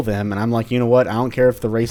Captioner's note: none